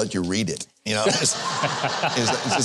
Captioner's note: audience laughs